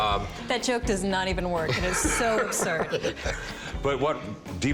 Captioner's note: laughter